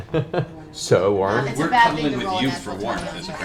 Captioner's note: laughs